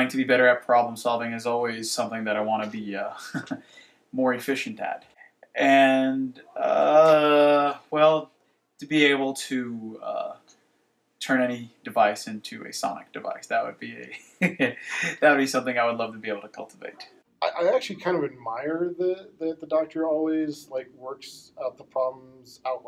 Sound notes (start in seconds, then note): 14.2 laughs